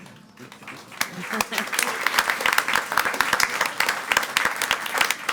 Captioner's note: audience applauds